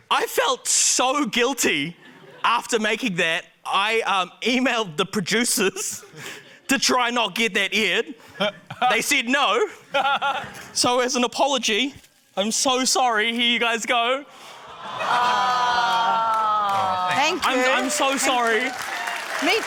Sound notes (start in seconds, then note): 9.7 guy laughs; 14.7 audience 'aww's